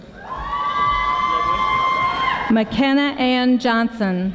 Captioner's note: audience applauding